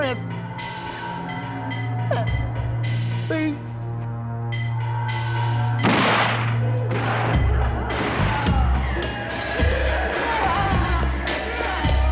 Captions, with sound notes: Prince. Please. (gunshots ringing)